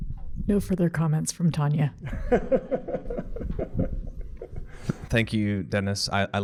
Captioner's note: laughs